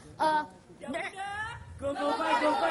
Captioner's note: chanting